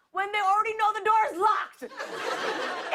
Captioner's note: laughter